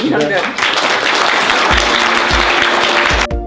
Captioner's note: applause